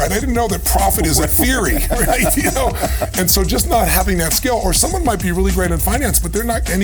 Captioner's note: chuckle